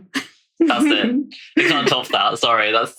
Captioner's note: laughing